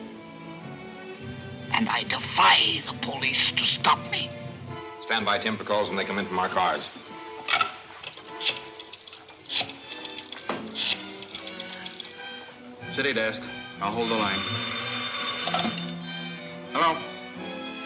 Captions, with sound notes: And I defy the police to stop me! (soft dramatic music) - Stand by Tim for calls when they come in from our cars. - City desk, I'll hold the line. (phone ringing) - Hello?